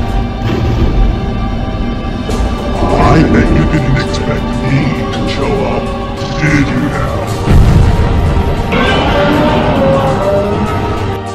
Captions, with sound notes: I bet you didnt expect me to show up didnt you? (Godzilla roars in anger and slowly approaches his gaint mechanical foe!)